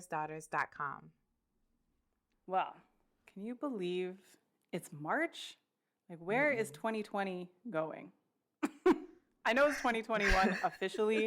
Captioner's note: laughter